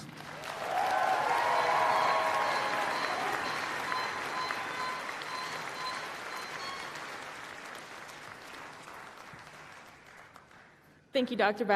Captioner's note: applause